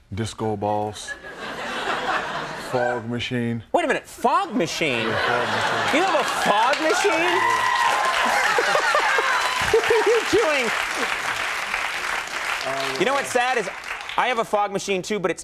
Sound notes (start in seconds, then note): 1.1 laughter; 4.5 audience laughs; 8.0 laughs